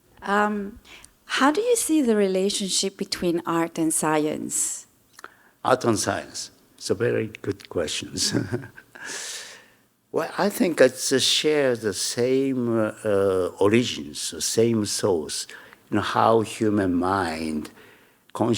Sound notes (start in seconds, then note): 8.2 Hiroshi chuckling